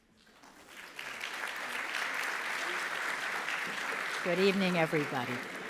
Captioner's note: audience applauding